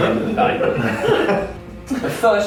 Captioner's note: laughing